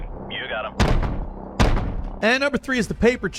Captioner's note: gun blasting